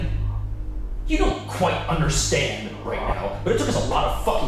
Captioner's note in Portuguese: com raiva